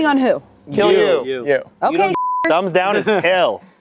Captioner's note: beep